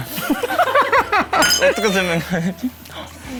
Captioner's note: about to cry